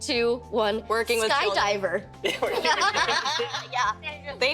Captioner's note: all laughing